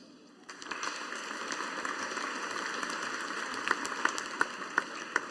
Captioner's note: audience applauding